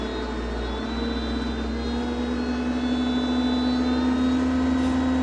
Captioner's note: machinery rumbles